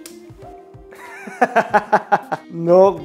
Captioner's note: laughing